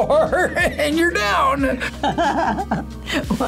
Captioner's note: laughs